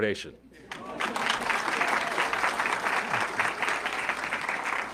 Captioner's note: audience clapping